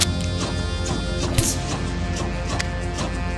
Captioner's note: punch lands